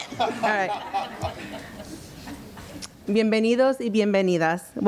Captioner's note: audience laughs